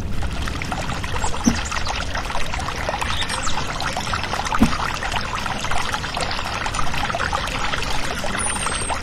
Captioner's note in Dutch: vogels fluiten, stromend water